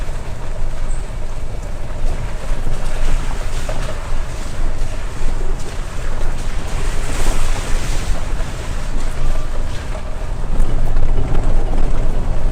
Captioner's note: vibrations